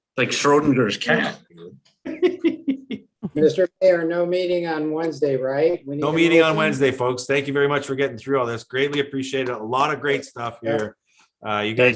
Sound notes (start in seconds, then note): 2.0 mayor laughs